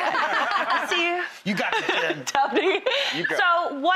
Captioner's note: laughter